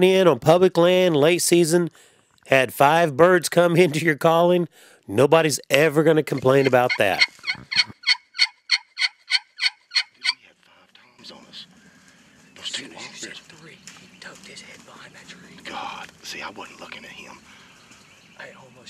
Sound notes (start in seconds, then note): 6.2 turkey calls